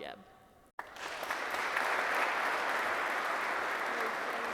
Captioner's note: audience clapping